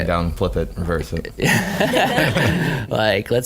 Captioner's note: laughing